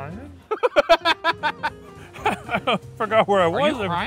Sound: laughing

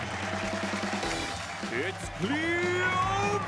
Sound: applause

